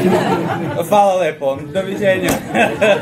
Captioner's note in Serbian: смех